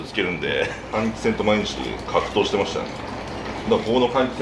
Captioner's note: laughter